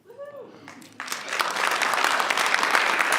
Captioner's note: clapping